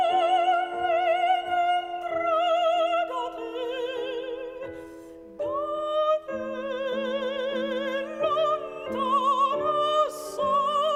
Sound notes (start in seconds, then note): none